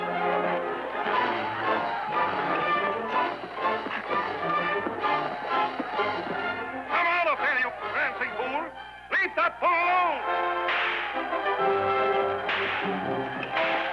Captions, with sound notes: Come out of there, you prancing fool! Leave that bull alone! (whip cracking)